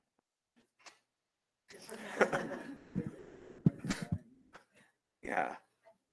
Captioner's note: laughter